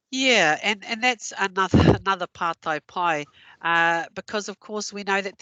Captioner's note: non-english